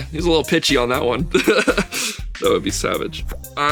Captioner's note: laughs